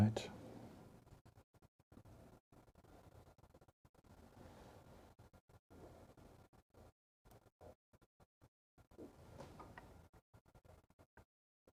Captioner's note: silence